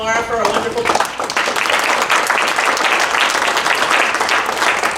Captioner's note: applause